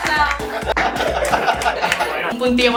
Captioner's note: laughs